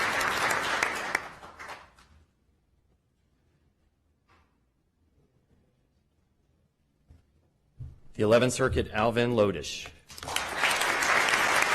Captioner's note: applause